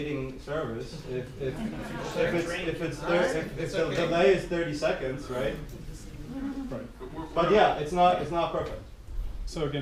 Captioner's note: giggles